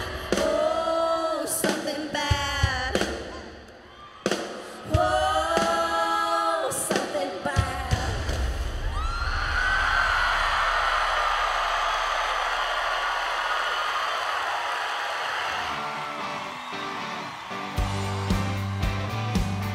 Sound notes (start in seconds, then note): 9.1 audience cheering and applauding; 15.5 audience cheering and applauding; 15.6 upbeat country music